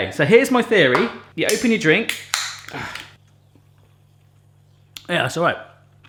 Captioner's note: cracking